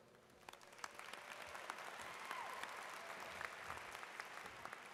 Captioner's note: audience claps